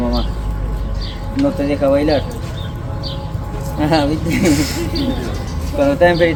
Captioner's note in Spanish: risas